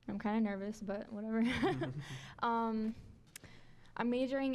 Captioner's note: laughing